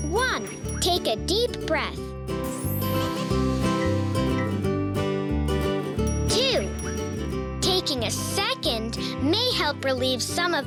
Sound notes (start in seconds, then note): 3.3 inhaling